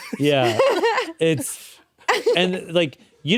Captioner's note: chuckle